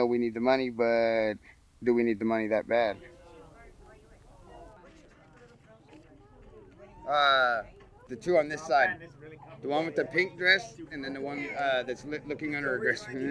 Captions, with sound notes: but do we need the money that bad? (people talking softly) The two on this side. The one with the pink dress and then the one that's looking under her dress.